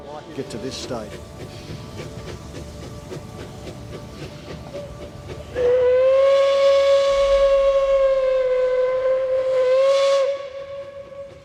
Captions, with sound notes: get to this stage. (train whistles)